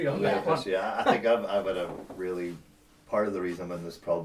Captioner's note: laughs